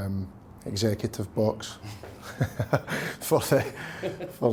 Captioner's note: chuckles